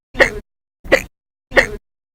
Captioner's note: hic!; hic!